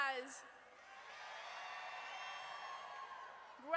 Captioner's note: audience cheers